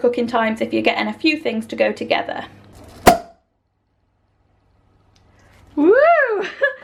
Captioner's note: cork popping